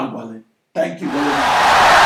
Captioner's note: audience cheering, applauding for 17 seconds